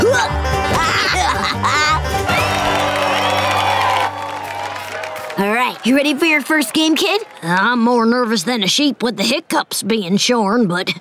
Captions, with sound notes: [laughing] [cheering] Alright, you ready for your first game, kid? I'm more nervous than a sheep with the hiccups being shorn, but...